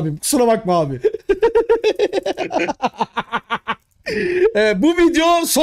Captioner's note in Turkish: gülüşmeler